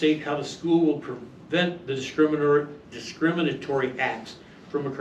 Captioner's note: stammers